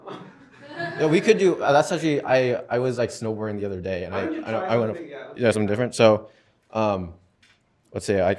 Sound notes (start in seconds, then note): 0.0 laughter; 0.0 chuckles